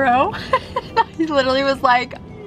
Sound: laughs

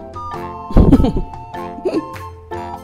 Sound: laughs

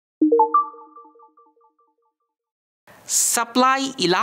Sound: text chiming

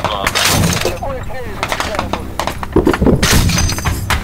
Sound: radio exchange

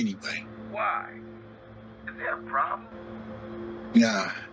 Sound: speaker phone

